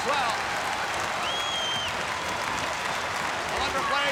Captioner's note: crowd cheering